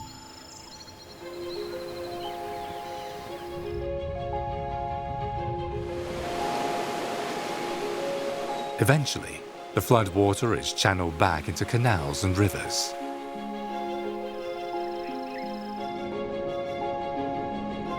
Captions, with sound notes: (gentle music) (water sloshes) Eventually, the floodwater is channeled back into canals and rivers. (gentle music)